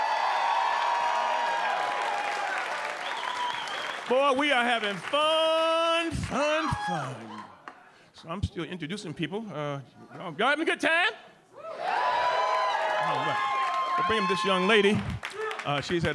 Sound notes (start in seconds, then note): 0.0 audience cheering; 11.6 audience cheering